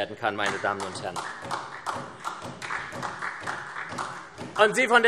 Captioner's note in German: Beifall SPD